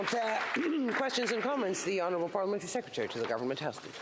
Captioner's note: some Applause